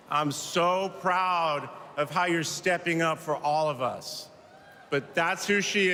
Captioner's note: cheers and applause